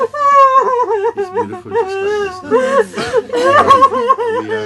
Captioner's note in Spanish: continúa llanto alto